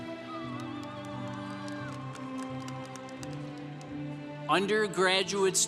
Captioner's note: congregation applauding